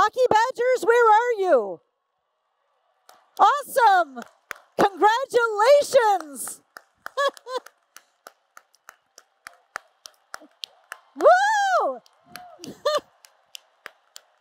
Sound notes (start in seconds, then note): 6.3 applause and Cheers